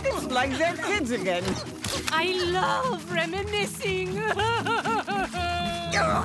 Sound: crying

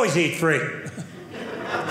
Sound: audience laughing

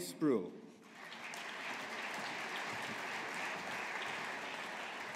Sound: audience applauding

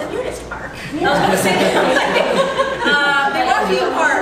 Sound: laughter

